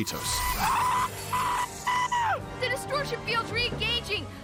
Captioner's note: Boimler Screams